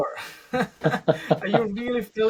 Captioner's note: laughs